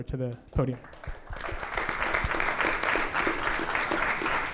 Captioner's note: applause